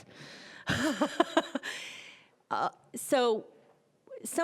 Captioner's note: laughing